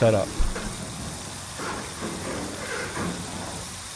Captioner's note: machines whirring